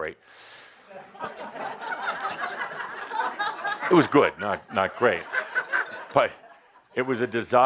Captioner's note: laughter